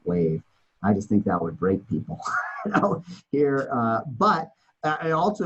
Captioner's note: laughs